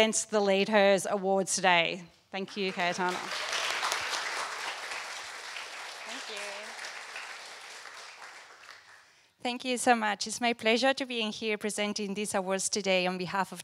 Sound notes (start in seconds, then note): 6.1 applause